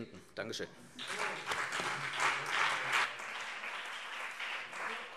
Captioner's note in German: Beifall CDU und vereinzelt BÜNDNIS 90/DIE GRÜNEN